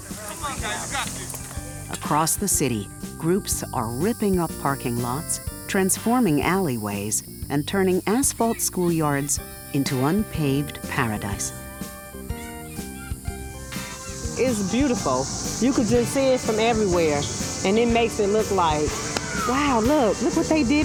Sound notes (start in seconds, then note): 9.9 children shouting playfully in the background; 11.1 cicadas buzzing